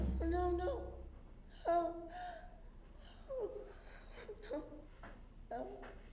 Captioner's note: Jane whimpering